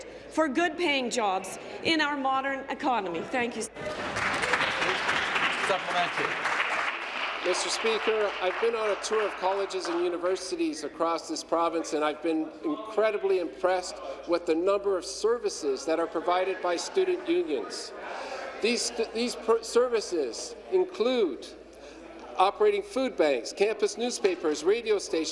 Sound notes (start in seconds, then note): 8.0 applause